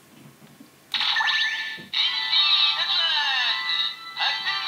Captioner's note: electronic chime